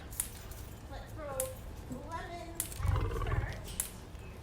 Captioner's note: lion growl